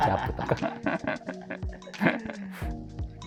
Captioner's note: laughing